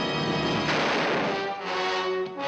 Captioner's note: gun firing